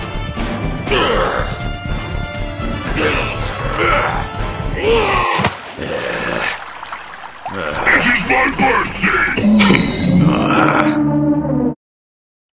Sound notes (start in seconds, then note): 5.4 water Drop